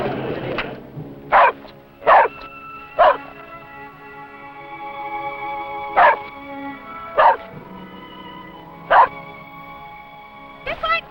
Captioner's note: dog Barking